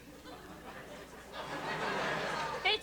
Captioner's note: laughter